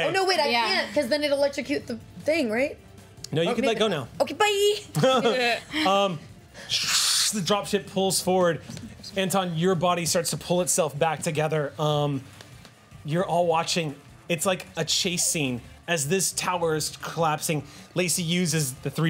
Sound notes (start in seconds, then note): 4.9 laughing